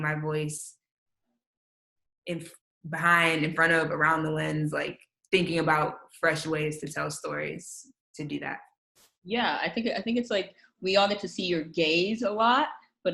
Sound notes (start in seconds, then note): none